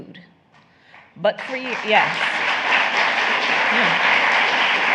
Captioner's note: applause